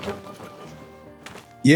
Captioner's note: scoffs